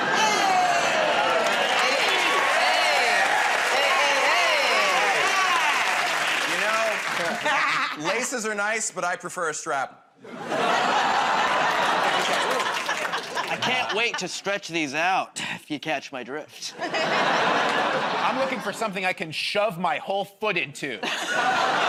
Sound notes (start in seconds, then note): 10.5 audience groans